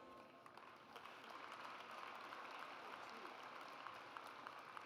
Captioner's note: audience applauds